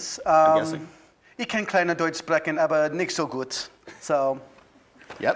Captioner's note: speaking in foreign language